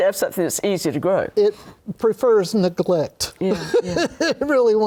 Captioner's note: laughter